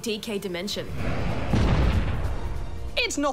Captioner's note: crash!